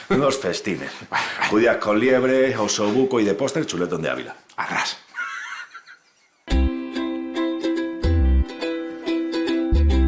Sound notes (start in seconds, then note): 4.5 laughing; 6.5 soft music